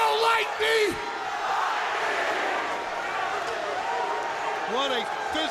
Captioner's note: crowd cheering